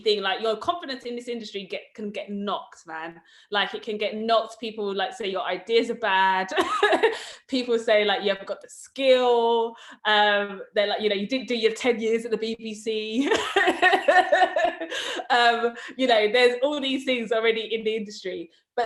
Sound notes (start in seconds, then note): 6.8 laughs; 13.4 laughs